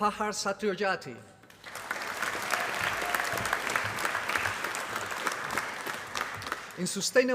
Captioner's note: applause